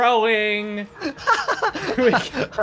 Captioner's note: laughs